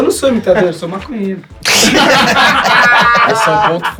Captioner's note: risos